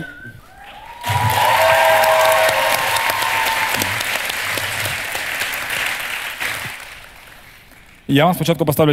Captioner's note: the audience cheers